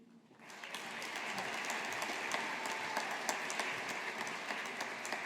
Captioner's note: audience applauding